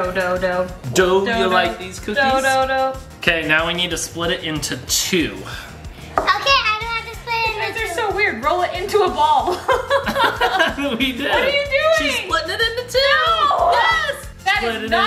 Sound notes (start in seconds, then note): 10.4 laughs